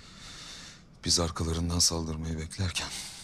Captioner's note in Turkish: none